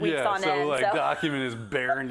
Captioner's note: laugh